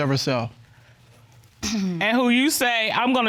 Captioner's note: clears throat